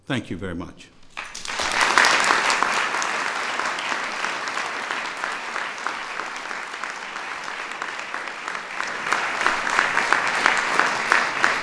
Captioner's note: applause